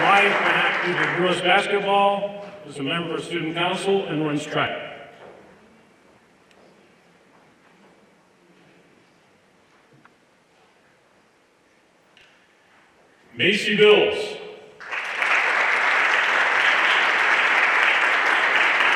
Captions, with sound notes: Sumaya is active in girl's basketball, as a member of student council and runs track. Macie Bills. (everyone applauding)